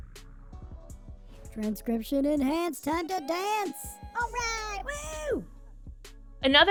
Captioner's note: crowd cheers